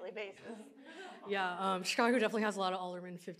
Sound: audience laughs

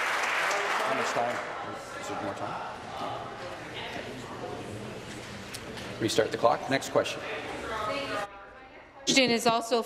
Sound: applause; continued applause

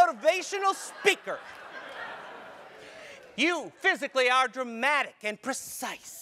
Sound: laugh

